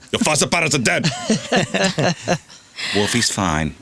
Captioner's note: laughing